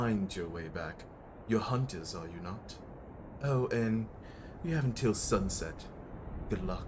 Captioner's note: smugly said